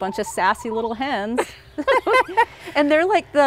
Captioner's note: laugh